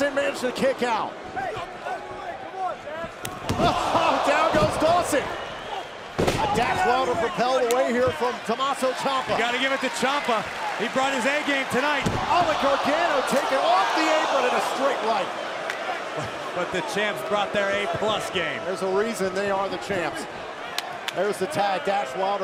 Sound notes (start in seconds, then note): 3.8 crowd cheering